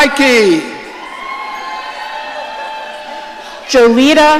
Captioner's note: audience cheering